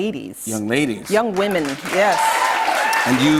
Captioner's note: cheers and applause